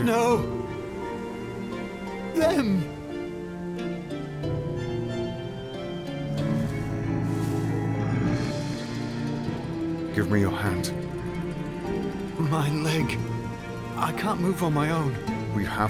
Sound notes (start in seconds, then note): 6.2 drifters growling